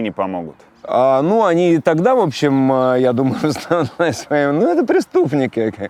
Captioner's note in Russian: смеётся